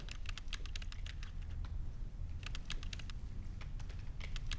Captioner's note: keyboard tapping